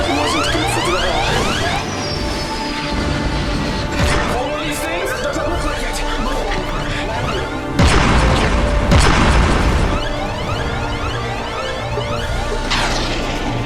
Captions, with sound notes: - That wasn't good for the hull. - Ever flown one of these things? - Does it look like it? (gun firing)